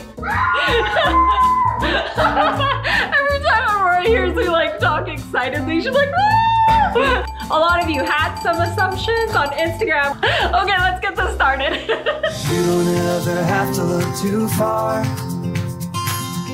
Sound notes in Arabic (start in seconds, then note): 0.2 صراخ صراخ; 0.3 ضحكات متحمسة; 5.8 هتاف متحمس; 6.0 صراخ متحمس; 7.0 رنين الجرس; 11.4 يضحك